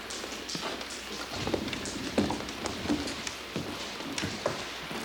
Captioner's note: thunder claps